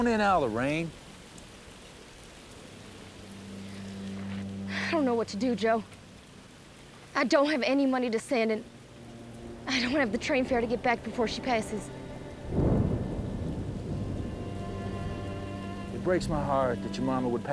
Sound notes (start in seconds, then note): 0.0 rain pouring; 1.8 rain pouring; 12.4 thunder